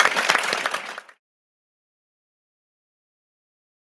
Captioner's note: applause